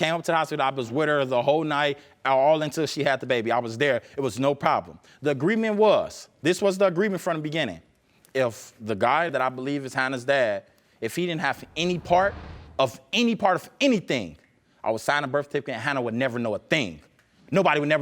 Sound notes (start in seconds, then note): none